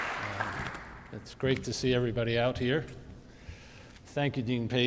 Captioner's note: audience applauding